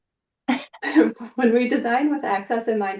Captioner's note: all laugh